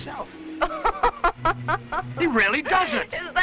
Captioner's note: Raina laughing